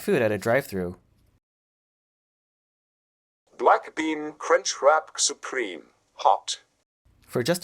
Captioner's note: In Patrick Stewart's voice